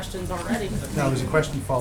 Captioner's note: laughter